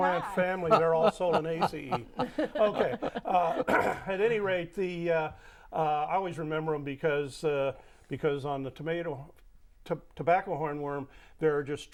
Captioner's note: laughing